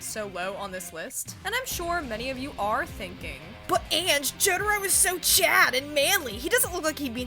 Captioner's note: mocking the voice of a presumed viewer